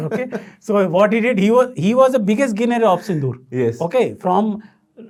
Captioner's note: laughing